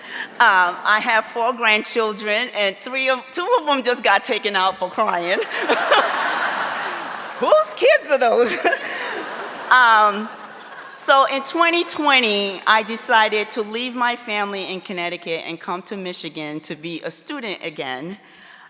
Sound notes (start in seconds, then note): 5.1 audience laughing